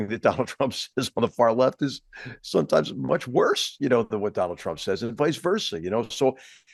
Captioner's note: laugh